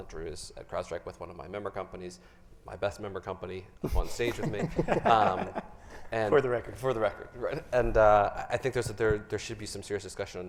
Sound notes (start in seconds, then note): 3.8 all chuckling